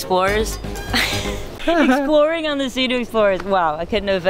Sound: laughs

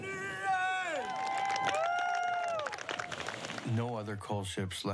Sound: all cheering

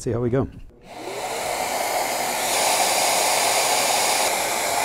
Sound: machinery whirring

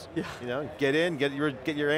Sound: laughs

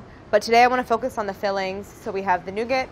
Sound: none

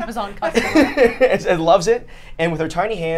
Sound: laughs

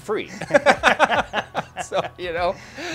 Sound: both laughing

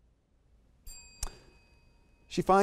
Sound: bell ringing

